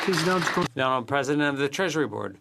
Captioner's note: applause